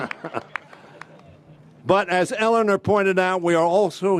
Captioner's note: laughter